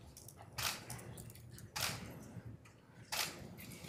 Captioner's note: camera clicking